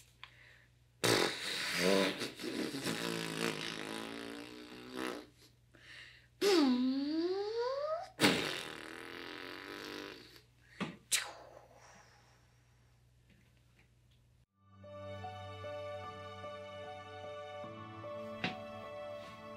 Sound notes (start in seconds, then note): 1.0 blows raspberry; 5.7 makes airplane noise; 14.5 soft music